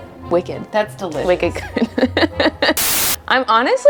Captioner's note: host laughs